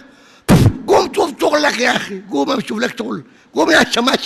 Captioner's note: spits on the mic